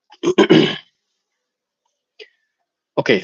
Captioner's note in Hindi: गला साफ़ करने की आवाज़